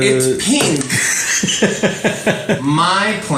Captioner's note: laughs